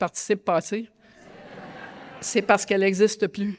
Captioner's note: laughter